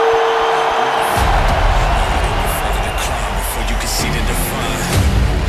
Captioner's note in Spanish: Ovación